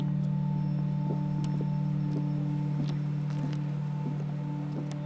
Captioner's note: footsteps creaking